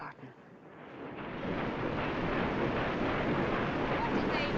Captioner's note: machinery Roaring